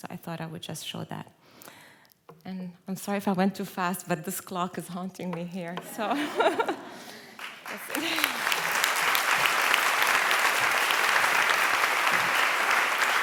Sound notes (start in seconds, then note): 5.8 laughter; 7.3 applause